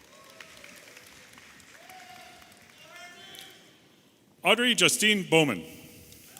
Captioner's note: audience applauding and cheering